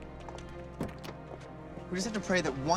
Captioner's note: door open close